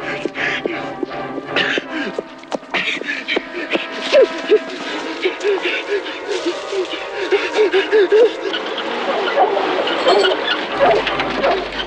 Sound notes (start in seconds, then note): 4.2 gasping deeply; 9.1 dogs barking